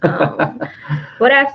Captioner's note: laughing